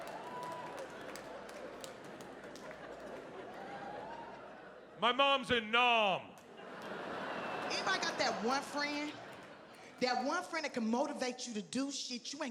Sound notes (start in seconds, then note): 6.4 audience laughing